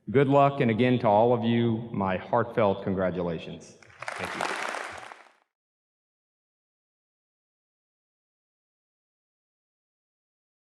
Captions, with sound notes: Good luck, and again, to all of you, my heartfelt congratulations. Thank you. (audience claps)